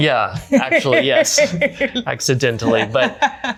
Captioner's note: laughs